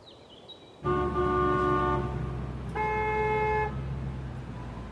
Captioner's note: car horn honks